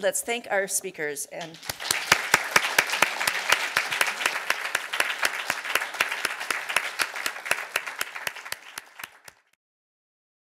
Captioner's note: applause